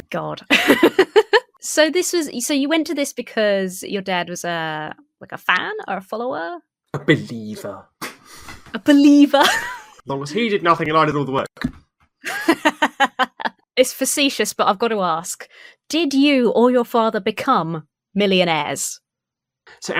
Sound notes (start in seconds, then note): 0.5 laughs; 8.1 wheezes; 12.2 laughs